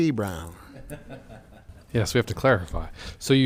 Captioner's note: laughing